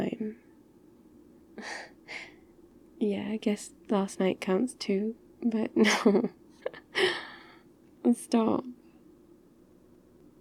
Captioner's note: laughs shyly